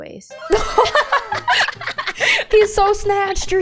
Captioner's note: laughter